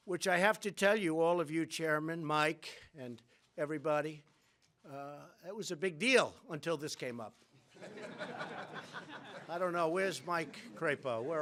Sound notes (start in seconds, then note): 7.7 laughter